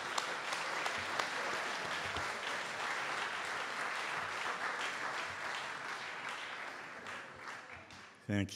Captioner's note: audience Applause